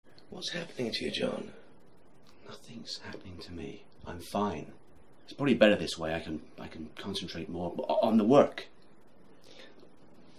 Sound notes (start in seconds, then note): none